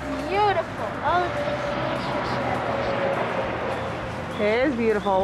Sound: sounds of cars driving by drowns out speaker

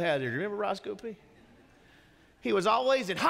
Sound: congregation laughing

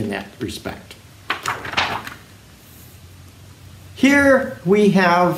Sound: page turning

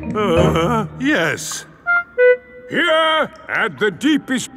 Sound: groans

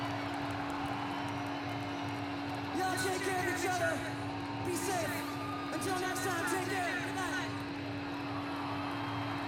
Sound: applause

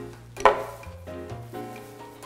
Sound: clink

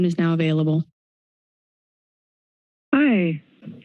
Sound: silence

